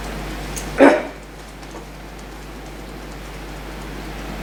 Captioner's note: tapping